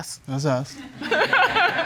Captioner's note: judge laughs